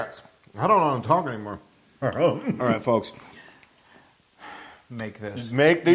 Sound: laugh

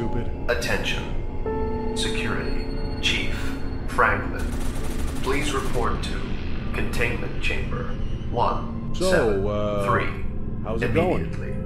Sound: pa system

